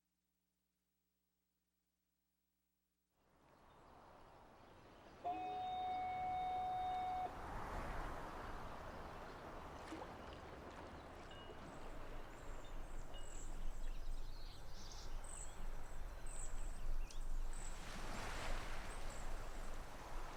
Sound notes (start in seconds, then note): 5.2 fog signal blowing; 9.3 wind blowing; 13.6 waves lapping; 17.7 waves crashing